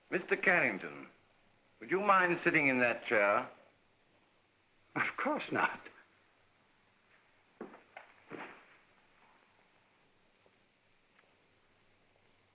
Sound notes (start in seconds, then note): none